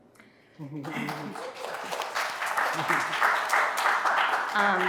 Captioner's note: audience applauding